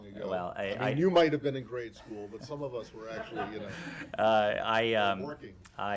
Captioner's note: laughter